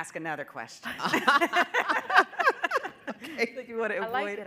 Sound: panelists laughing

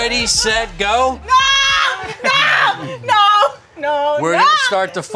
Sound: screaming

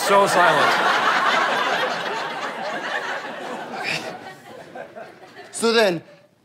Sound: audience laughter

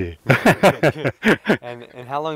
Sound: laughs

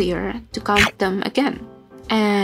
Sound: snakey snake chomp nom noise

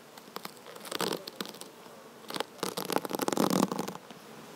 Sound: tape tears

